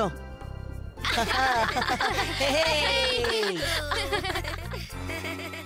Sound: laughing

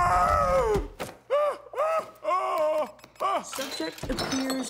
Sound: yelling

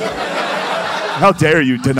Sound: laughter

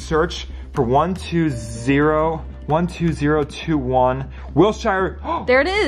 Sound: gasps

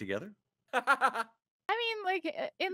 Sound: laughing

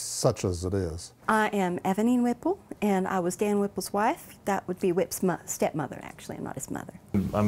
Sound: southern accent

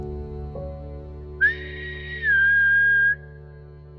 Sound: whistle

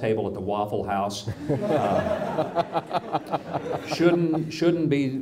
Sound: audience laughs

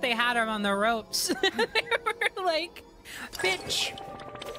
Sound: laughter

